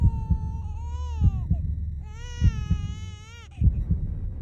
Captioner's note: llanto de bebé